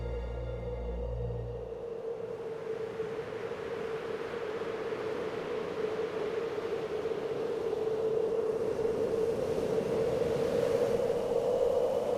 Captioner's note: wind blowing